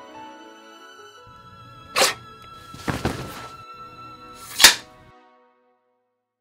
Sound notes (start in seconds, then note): 2.8 thud; 4.4 sword slams in sheathe